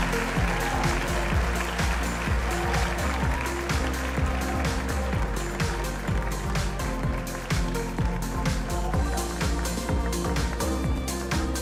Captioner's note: cheers and applause